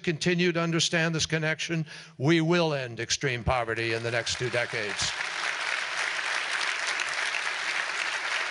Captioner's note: applause